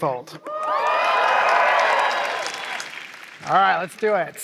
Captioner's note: applause